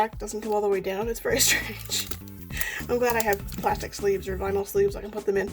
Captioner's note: laughs